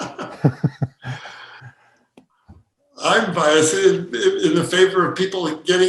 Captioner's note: laughing